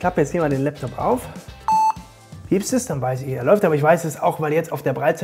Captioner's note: beeping